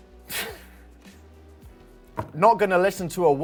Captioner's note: laughs